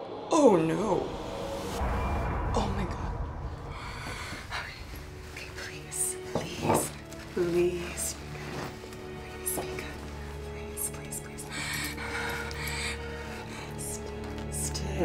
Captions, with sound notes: Oh no. Oh my God. (inhales) Okay. Okay please, please, please, please be good, please be good. Please, please, please. (labored breathing)